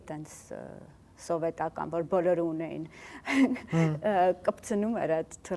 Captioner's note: laughs